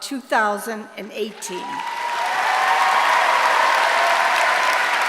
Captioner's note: applause